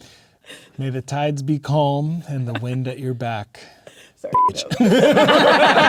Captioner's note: beep!; players laughing